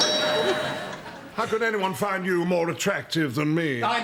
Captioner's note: doorbell